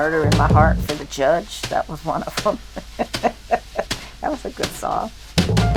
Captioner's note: laughs